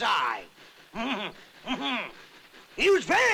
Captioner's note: chuckles